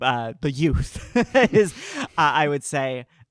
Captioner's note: laughing